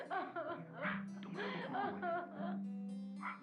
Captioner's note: Maria continues crying